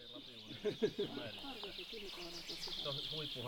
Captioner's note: laughter